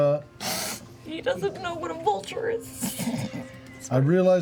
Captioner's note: chuckles